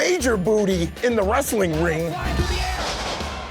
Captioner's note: lightning crackling